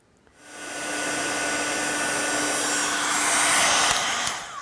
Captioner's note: tool whirs